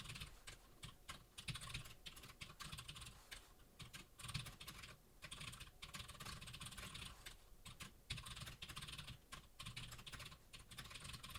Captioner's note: typing sounds